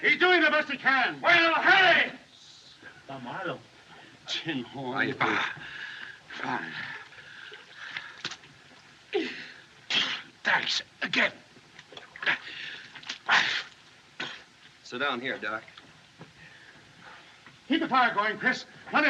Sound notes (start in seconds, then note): 5.3 exhales; 9.2 gasps